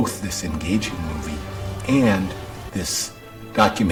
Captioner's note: boat engine